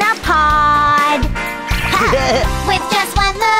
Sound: giggles

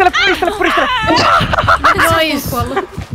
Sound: manic laughter

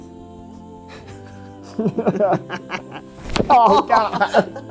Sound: laughs; bones cracking

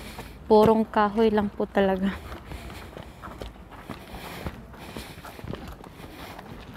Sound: heavy breathing

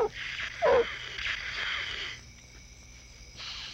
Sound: hissing

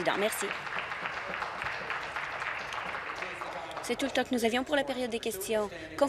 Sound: voice trailing; applause

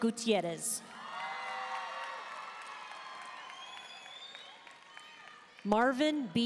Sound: audience cheering and applauding

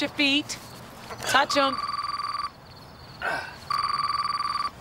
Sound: phone ringing

